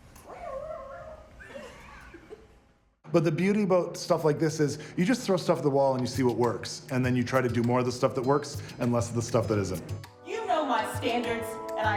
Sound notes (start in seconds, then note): 2.0 laughing